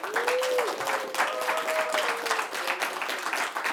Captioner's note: applause